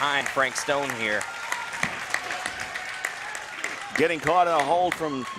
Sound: crowd clapping and cheering

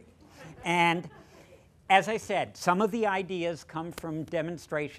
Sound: laughter

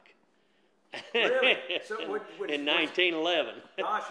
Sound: laughs

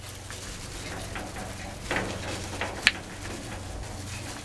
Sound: tools clattering

